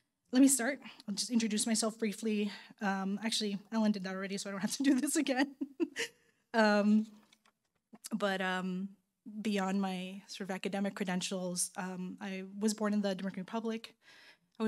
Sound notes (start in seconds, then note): 5.4 laughing